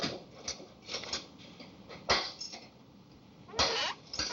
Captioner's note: rattling